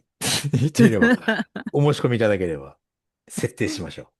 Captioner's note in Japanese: 笑い